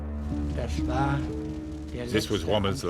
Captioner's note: speaking in foreign language